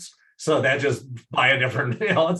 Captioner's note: laughs